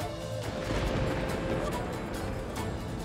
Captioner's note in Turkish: Gök gürültüsü efekti